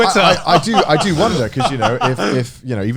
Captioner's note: Garnt laughing